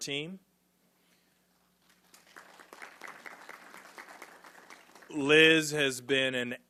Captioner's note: applause